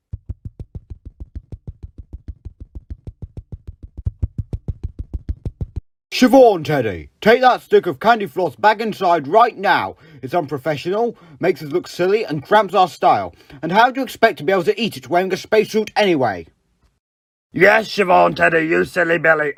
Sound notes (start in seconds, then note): 0.1 footsteps; 4.0 closer footsteps